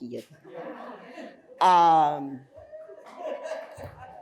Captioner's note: audience laughing